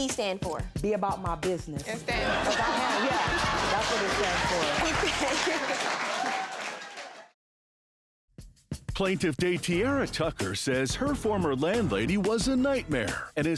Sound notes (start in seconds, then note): 2.2 all applauding; 4.4 laughs